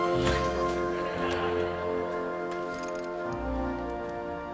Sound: light laughter

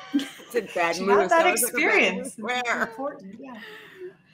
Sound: group chattering

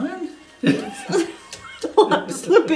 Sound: laughing

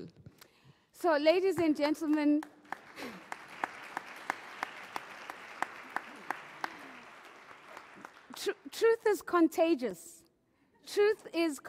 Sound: applause

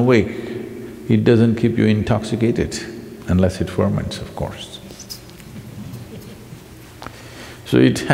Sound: laughs

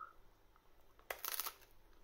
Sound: crunch

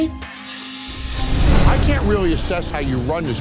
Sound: air whooshing

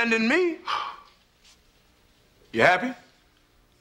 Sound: Phil sighs

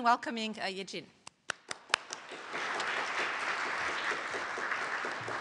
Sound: applause

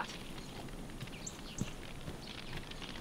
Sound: footsteps

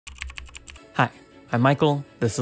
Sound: typewriter clacking; lively music

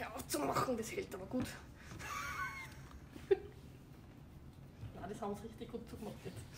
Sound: laughs

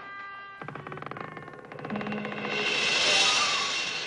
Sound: door creaking

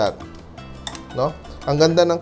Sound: clang

